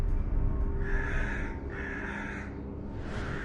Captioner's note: birds cawing